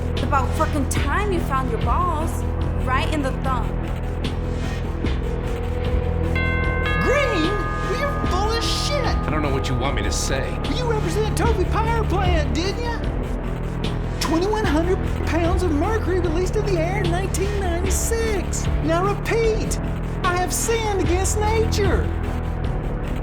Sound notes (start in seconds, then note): 6.6 doorbell rings